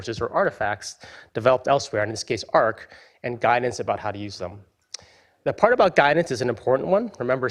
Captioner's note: none